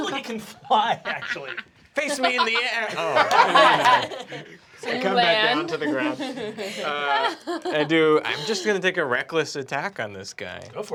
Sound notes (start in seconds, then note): 2.0 laughter